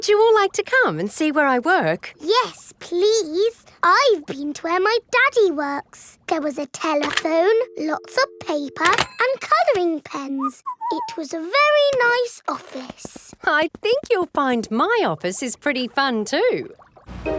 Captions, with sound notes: Would you all like to come and see where I work? Yes, please! I've been to where my daddy works. There was a telephone, lots of paper and coloring pens. -(WHISTLES) -It was a very nice office. I think you'll find my office is pretty fun too!